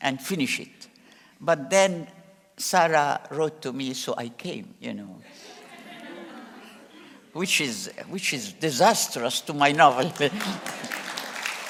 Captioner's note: applause